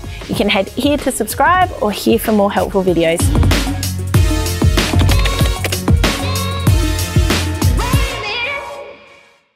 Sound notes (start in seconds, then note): 3.7 upbeat music; 4.9 keys typing